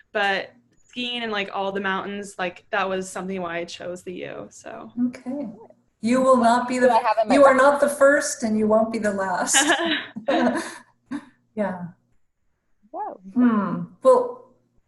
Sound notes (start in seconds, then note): 9.5 laughter